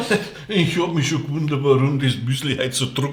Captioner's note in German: lacht